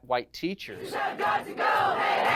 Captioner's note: chanting and clapping